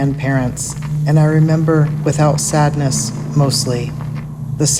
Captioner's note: distant sound of tires